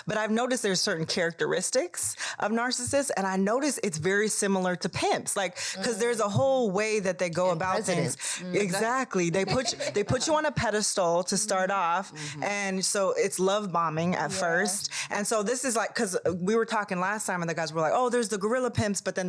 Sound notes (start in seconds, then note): 7.9 speaks faintly; 8.4 laughs